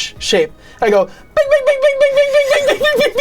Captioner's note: in high-pitched voice